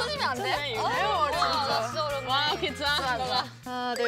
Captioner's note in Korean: 꼬치 가게 사장님들의 앓는 소리